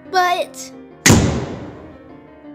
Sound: door Slams

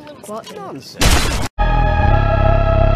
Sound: gunshot

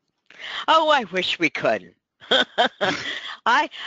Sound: laughs

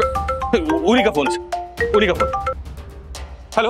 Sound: mobile phone ringing

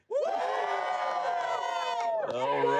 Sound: cheers

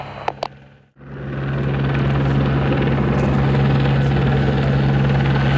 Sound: helicopter whirring

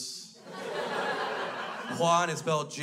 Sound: crowd laughs

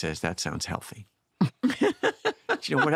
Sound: laughs

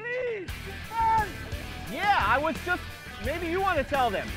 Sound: yelling

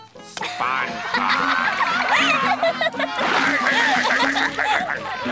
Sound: laughing

